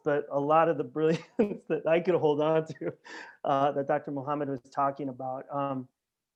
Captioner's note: laughter